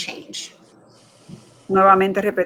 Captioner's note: speaking in Foreign Language